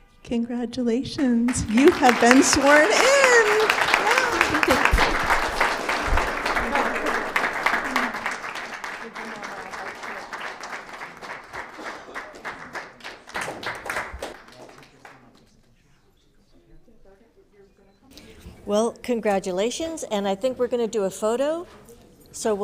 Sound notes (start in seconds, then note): 4.0 applauds